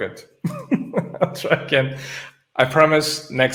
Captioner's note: laughing